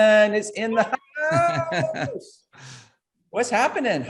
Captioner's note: chuckling